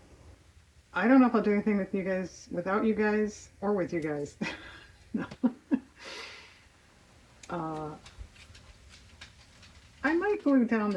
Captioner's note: laughs